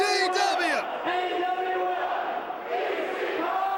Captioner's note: crowd cheering